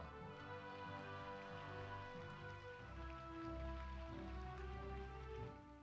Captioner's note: audience applauding